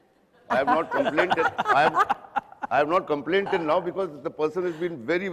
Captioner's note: laughter